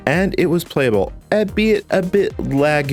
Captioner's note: none